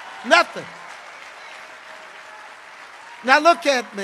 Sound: congregation cheering

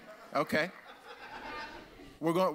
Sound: audience laughs

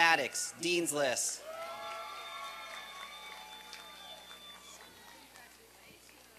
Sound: applause and cheering

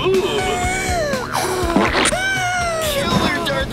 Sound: hyperventilating

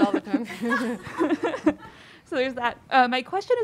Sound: audience laughing

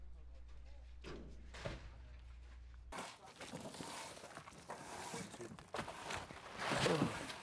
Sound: rustling

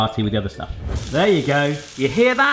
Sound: sausage sizzling

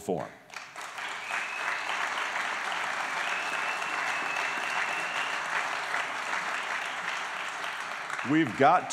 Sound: applause

